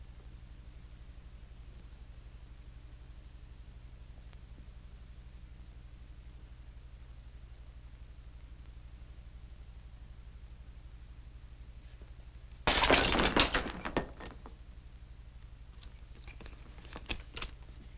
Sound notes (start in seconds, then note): 12.6 glass shatters